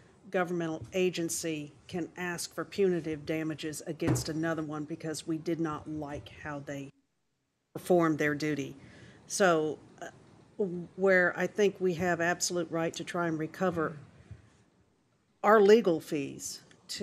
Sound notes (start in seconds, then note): 2.7 off microphone